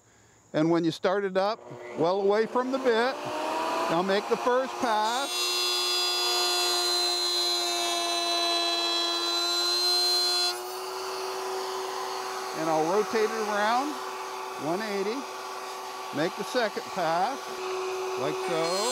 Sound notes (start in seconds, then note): 5.0 saw revving; 18.7 saw revving